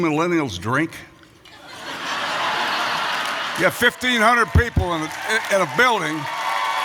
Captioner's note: laughter and applause